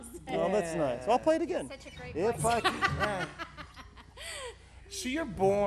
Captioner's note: laugh